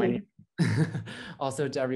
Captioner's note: laughs